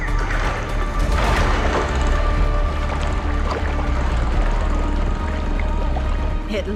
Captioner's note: intense music; water rustling